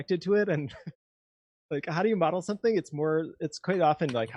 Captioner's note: laughs